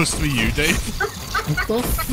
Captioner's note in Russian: смех